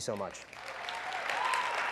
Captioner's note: applause